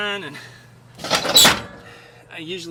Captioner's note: metal scraping